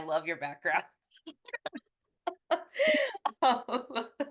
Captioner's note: both chuckle